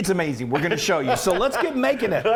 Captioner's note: laughing